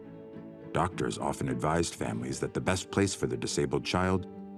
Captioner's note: none